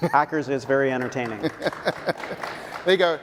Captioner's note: audience clapping